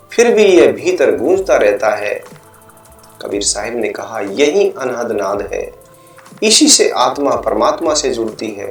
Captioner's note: struck sound